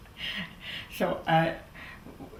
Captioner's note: laughs